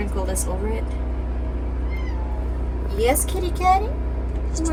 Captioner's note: kitty Meows